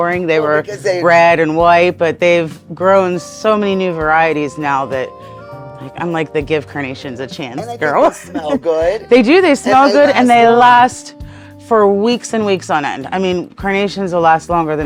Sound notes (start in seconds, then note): 7.6 chuckling